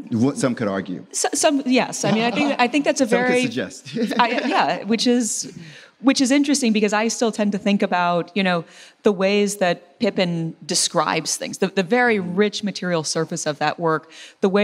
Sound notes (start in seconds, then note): 3.8 laughs